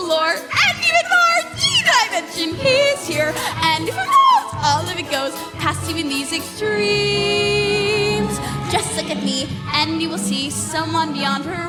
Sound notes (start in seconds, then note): 0.9 crying